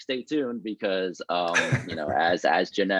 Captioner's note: laughing